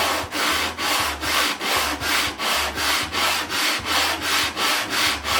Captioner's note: sanding